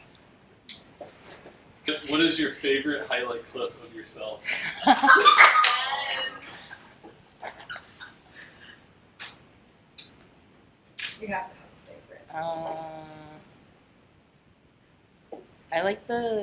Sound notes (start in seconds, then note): 4.5 laughing